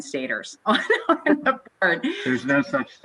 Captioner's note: laughing loudly